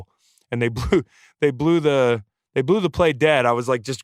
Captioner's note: laughs